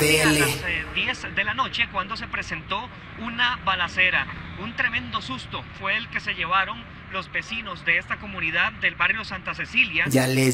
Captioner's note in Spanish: Sonido de TV